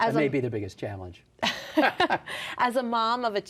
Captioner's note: laughter